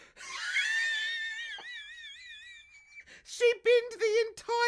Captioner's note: laughs